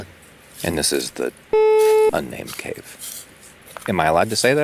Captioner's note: beeping